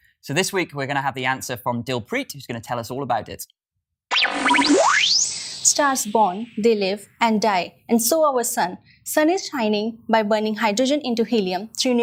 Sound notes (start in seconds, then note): 4.1 electronic whizzing